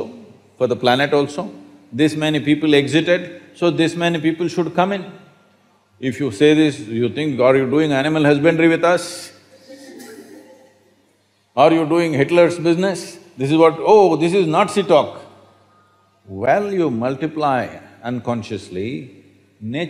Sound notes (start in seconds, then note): 9.7 laughter